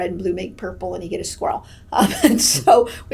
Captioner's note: laughs